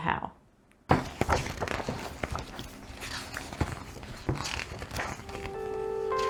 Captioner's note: lotsa book pages going flippity